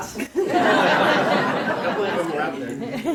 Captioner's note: laughter